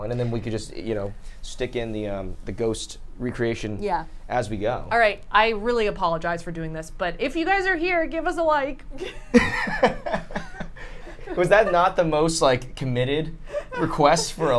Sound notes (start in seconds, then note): 9.0 all laugh